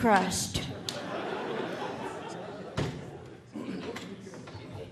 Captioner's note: audience laughing